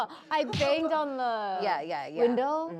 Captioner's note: bang